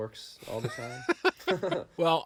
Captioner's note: laughing